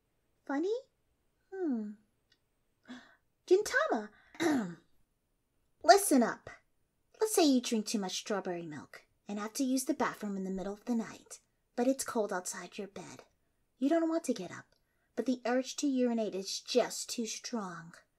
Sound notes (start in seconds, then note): 2.8 gasp; 4.4 clears throat